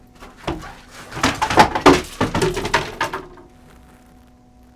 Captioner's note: equipment rattling